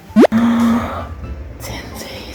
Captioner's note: audible gasp